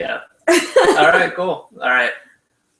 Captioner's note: laughs